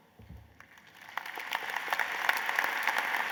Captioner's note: applause